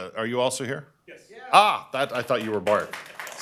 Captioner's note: applause